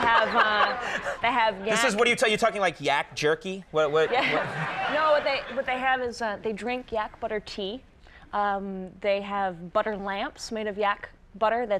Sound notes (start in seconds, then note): 0.1 Conan laughs; 4.0 laughs